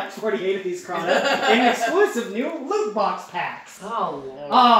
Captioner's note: laughter